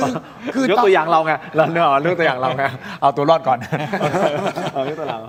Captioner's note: laughs; laughs